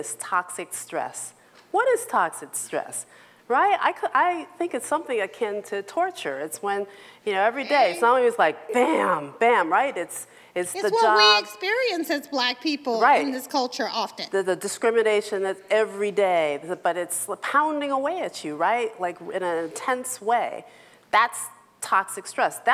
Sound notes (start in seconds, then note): 10.7 bell